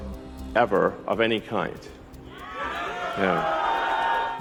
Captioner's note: audience cheering